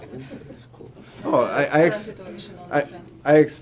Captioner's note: laughter